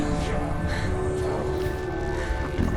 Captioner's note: indistinct chatter